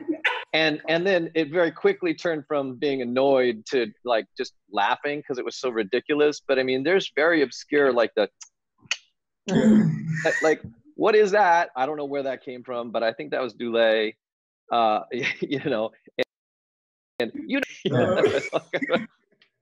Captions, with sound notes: And, and then, it very quickly turned from being annoyed to like just laughing cuz it was so ridiculous, but I mean there's very obscure, like the [tsk tsk]. [laughs] Like, like, what is that? I don't know where that came from, but I think that was Dulé. Ah, you know, and- [laughs]